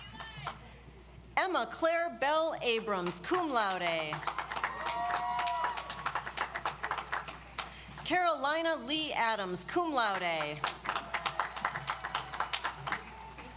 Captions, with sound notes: Emma Claire Bell Abrams, Cum Laude. (audience applauds) Carolina Lee Adams, Cum Laude. (audience applauds)